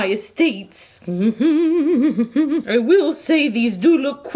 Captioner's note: humming